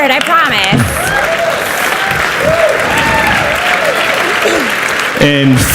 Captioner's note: audience cheers and applauds